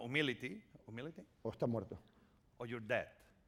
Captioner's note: speaking spanish